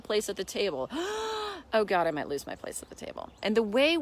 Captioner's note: gasps